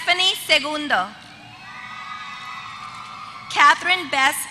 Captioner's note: applause